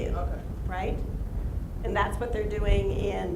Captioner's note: voiceover